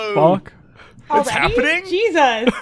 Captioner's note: laughs